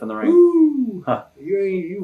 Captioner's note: chuckles